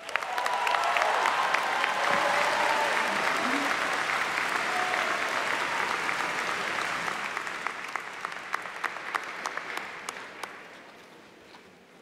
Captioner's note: applause